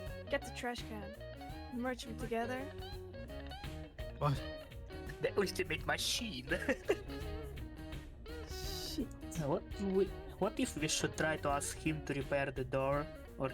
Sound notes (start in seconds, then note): 6.1 laughs